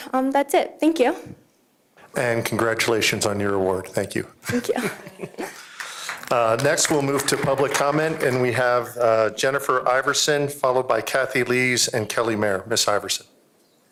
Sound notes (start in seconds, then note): 8.8 applause